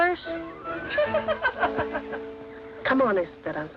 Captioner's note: women laugh